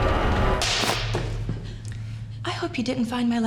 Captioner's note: tense music continues; whip snapping